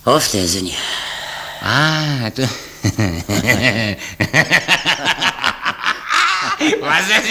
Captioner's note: laughs heartily